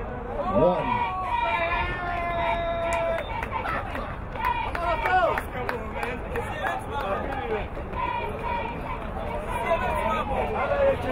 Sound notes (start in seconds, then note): 3.0 whistle blowing